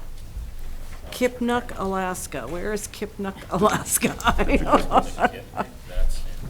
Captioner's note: laughs